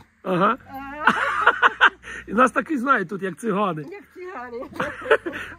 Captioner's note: laughs